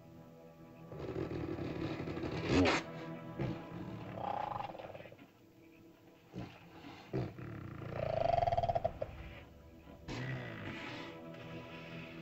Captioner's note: ominous music; dinosaur grumbles